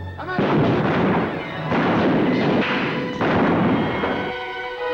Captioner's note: gunshots